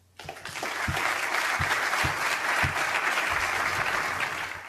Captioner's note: crowd applauding